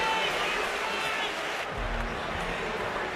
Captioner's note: speaking French